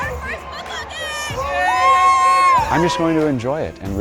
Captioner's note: cheers